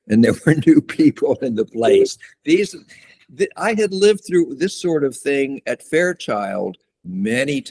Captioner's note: laughs